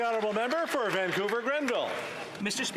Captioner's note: applause